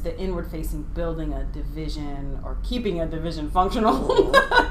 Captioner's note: laughing